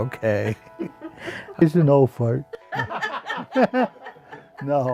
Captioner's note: laughter